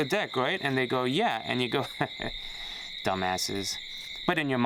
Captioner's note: chuckles